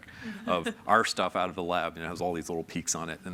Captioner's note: panelists laugh